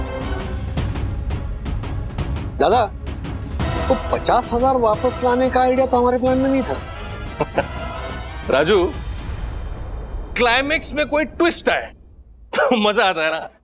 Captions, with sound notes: Manoj. Recovering the fifty thousand wasn't part of the plan. [chuckles] Raju. The climax is fun only if there's a twist!